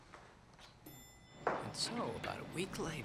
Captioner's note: elevator dings